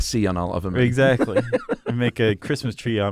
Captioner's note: laughs